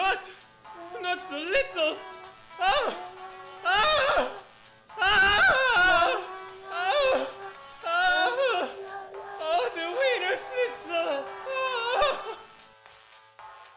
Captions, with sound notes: Mien godt! Not so little! (Oesophagus screaming) (techno music) The wiener sweetso.